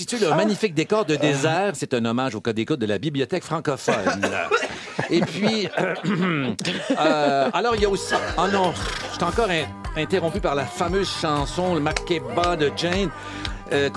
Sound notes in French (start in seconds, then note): 6.0 raclement de gorge